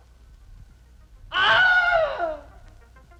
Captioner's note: another scream